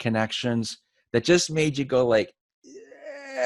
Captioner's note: groans